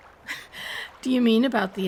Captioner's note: laughing